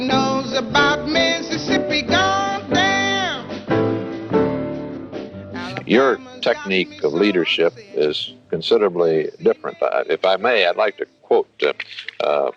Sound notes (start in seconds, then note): 4.9 soundbite of archived recording